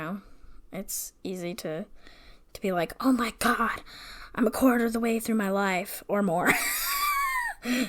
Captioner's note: laughs